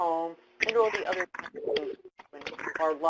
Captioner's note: keyboard clacking